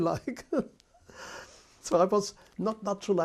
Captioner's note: laughs